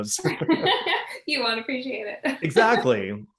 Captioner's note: laughing